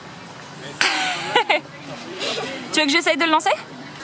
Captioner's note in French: rires